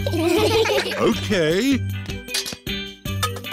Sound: laughter

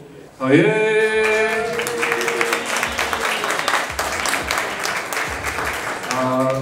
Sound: applause

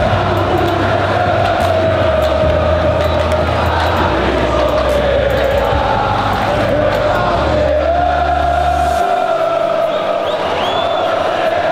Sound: FURIA chanting

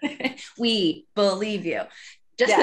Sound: laughing

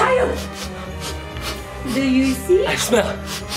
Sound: sniffing

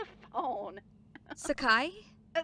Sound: chuckles

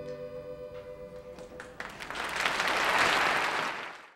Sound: audience clapping

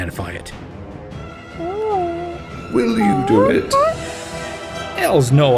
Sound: ape noises

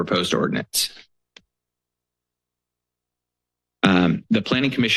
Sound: pause

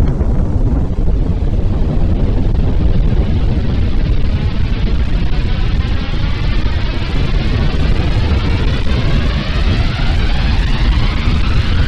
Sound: explosion; wind roaring

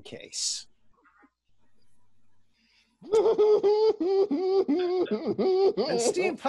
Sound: laughter

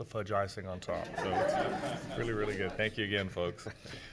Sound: laughing

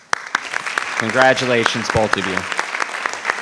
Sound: audience applauding

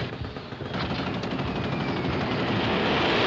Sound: dive bomber approaches

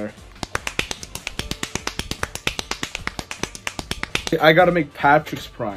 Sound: jacking noises

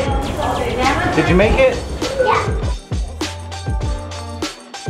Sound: indistinct loud chatter; upbeat music

